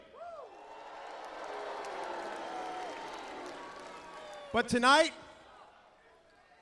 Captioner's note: crowd cheering